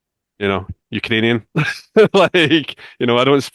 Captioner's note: laughs